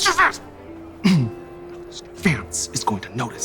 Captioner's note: clears throat